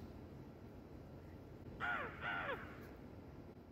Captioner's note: crow noise